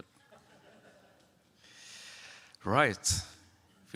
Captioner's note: audience lauhing